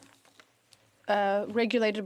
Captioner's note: speaking French